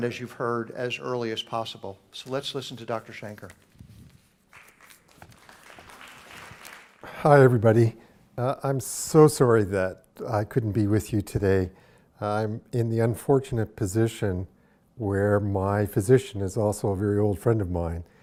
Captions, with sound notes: as you've heard, as early as possible. So let's listen to Dr. Shanker. [ Applause ] >> Hi, everybody. I'm so sorry that I couldn't be with you today. I'm in the unfortunate position where my physician is also a very old friend of mine,